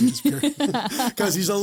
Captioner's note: both laugh